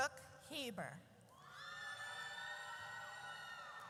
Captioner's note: audience cheers